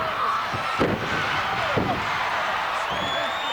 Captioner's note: bodies thud; audience cheering